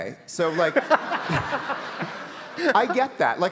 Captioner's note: audience laughing